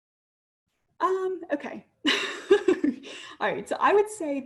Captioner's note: laughs